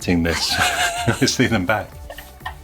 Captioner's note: giggles